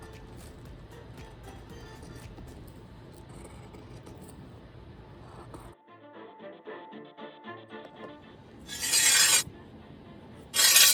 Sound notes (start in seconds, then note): 8.7 sword scraping